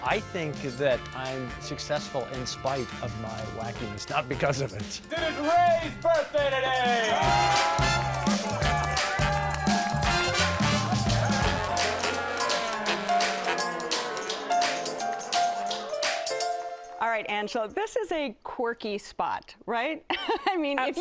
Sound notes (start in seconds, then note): 7.2 cheering